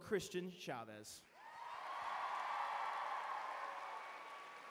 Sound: applause

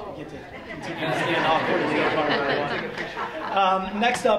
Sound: audience laughs

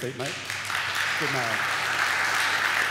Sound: audience applaud

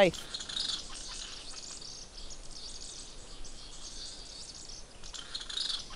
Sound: birds chirping

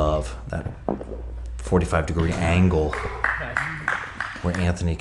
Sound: spectator applauds

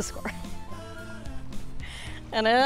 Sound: laugh

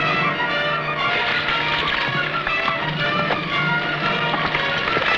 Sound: horse hooves pattering

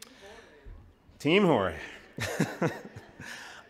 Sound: chuckles

